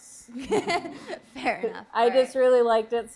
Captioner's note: laughing